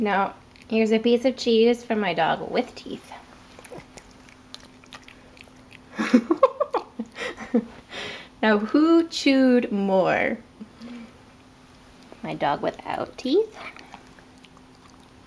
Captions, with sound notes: No here's a piece of cheese for my dog with teeth. (giggling) Now who chewed more? My dog without teeth?